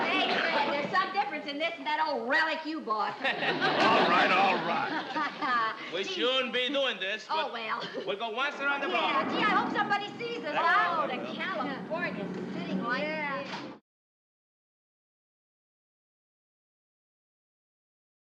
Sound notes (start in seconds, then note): 3.1 audience laughing; 4.8 laughing